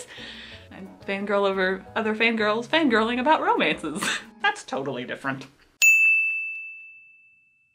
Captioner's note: ding